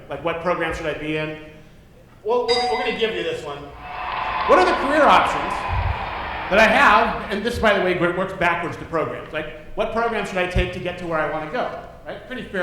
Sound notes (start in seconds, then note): 2.4 dinging; 3.7 cheering